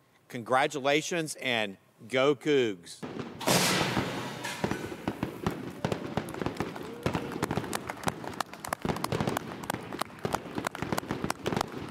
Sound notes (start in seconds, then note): 3.0 fireworks exploding; 7.9 clapping